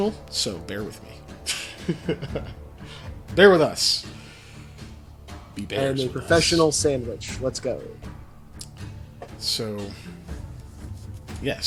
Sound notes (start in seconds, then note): 1.4 laughs